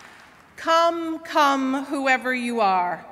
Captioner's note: applause